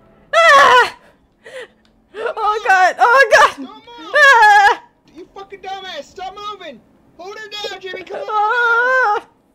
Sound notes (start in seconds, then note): 0.3 Vera screams in agony; 4.0 more scream